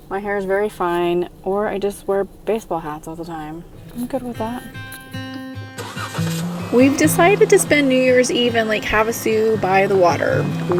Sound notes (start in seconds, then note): 5.2 car engine starting; 5.2 soft music